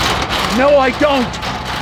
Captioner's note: door rattling